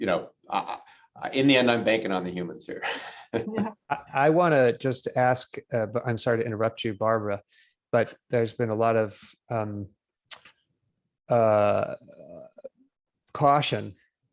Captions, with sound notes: The unknown banking on the humans here. [LAUGHTER]. I want to just ask, but I'm sorry to interrupt you, Barbara. But there has been a lot of caution.